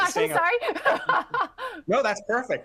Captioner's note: laughter